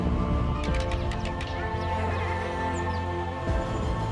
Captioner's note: helicopter blades whirring; sticks tapping; adventurous music